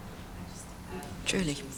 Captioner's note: speaks faintly